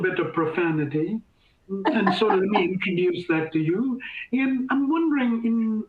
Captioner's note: laughter